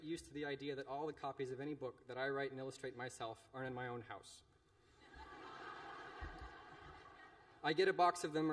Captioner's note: laughter